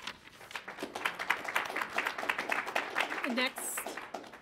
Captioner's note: audience applauds